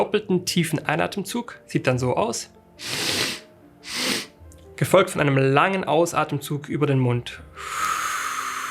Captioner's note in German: schnauben